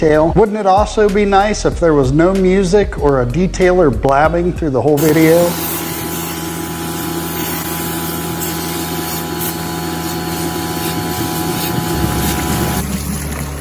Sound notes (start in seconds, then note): 4.9 extractor sounds; 12.8 dirty water draining sounds